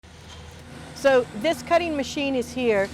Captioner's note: machine sounds